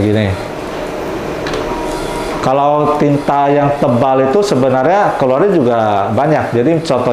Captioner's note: printer machine sound